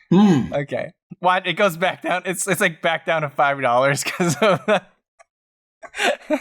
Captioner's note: laughter